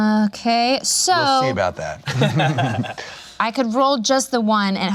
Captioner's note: laughs